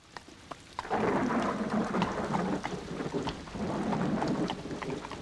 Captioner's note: guntur bergemuruh